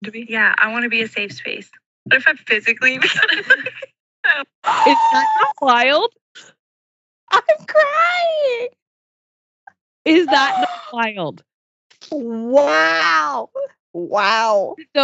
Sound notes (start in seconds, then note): 4.3 laughs